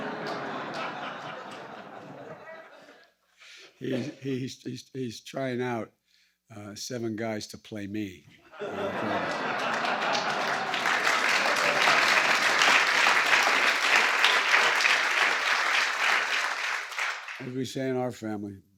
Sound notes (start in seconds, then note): 0.0 laughter; 8.0 laughter and applause